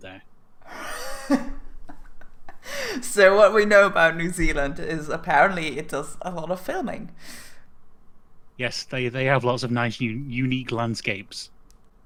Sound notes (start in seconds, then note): 0.6 laugh